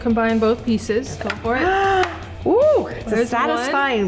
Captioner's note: gasps